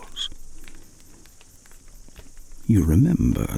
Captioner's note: fire crackling and night insect buzzing